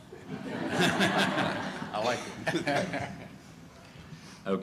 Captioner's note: laughter